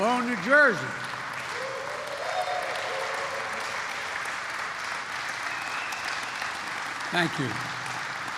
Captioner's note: applause